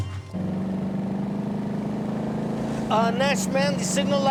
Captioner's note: car engine roaring